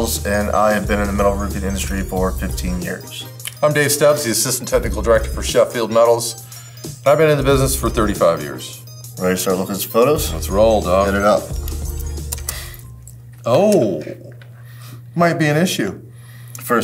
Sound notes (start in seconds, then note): 11.6 keyboard clicking